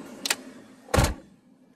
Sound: car door closes

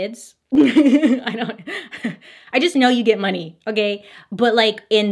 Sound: laughs

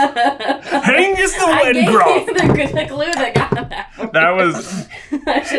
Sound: laughing

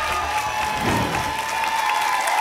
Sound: whoosh; applause and cheering cont

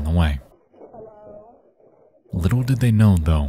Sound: fire crackling

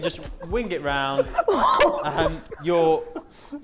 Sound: Sidemen laughing

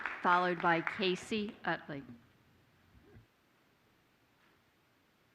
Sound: applause

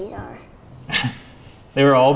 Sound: laughs

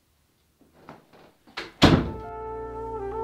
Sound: door closes

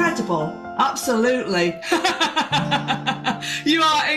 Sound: laughs

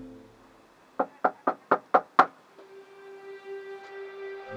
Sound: soft knocking

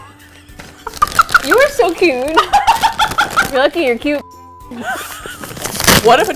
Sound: laughs; laughs; both laugh

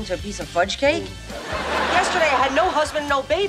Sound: laughing

